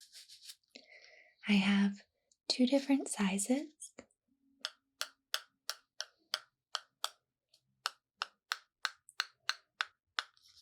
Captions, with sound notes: I have two different sizes (tapping)